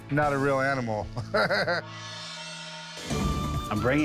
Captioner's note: laughs